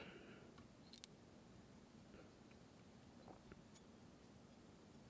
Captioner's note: thread whirling